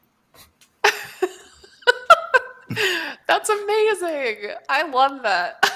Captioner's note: laughs